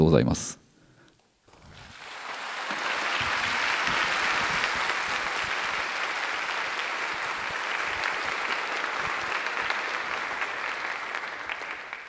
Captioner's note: applause